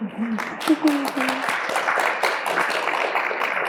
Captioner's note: applause